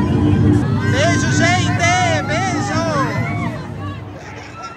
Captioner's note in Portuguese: gritos ao fundo